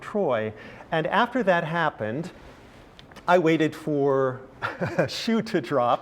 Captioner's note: laugh